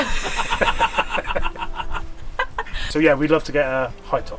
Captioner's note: laughing